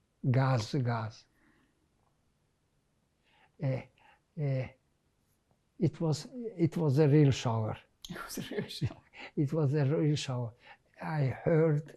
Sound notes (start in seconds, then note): 8.3 laughing